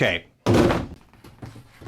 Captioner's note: loud thud